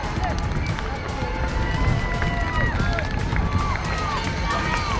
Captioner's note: crowd cheering